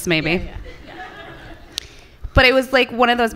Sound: laughter from the audience

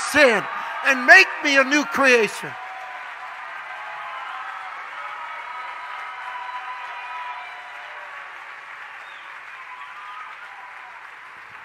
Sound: congregation cheers

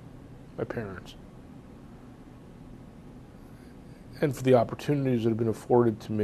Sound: pauses for 3 seconds

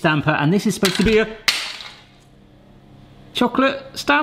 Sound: plastic clatters

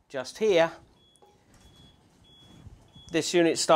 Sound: beep, beep, beep beep

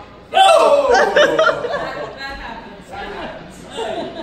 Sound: laughter

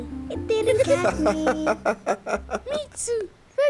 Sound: laughing

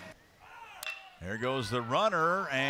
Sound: ball hitting bat

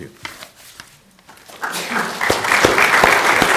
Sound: applause

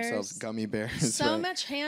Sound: laughs

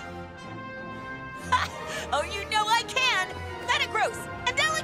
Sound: chuckles

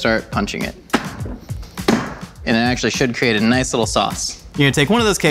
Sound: thud

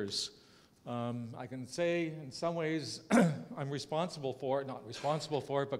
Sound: cough

